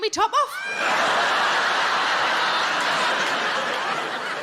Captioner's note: audience laughing